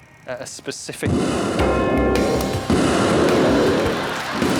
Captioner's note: bang